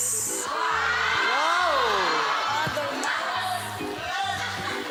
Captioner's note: crowd